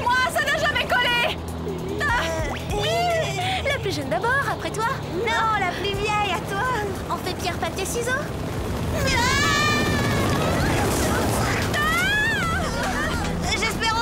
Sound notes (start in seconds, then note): 9.9 propeller sounds; 11.7 screaming